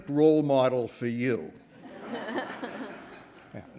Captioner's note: laughter